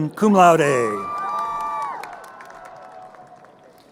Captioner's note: crowd cheering